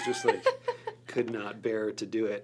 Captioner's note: laughs